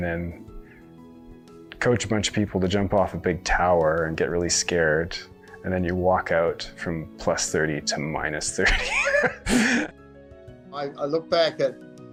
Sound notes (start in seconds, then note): 8.6 laughs